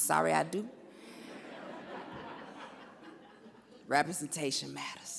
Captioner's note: audience laughs